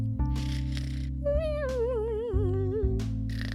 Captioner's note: Barrel snoring